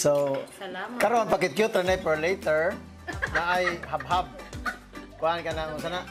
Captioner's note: giggles